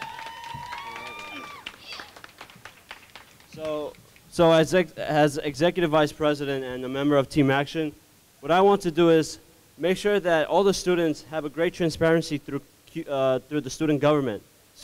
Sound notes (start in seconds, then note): 0.0 cheering and clapping